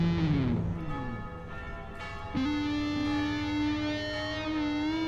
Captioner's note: church bells ringing